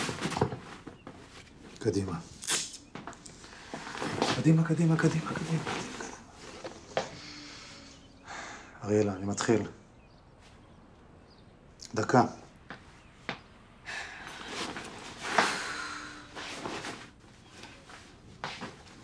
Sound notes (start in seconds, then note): 13.6 sighs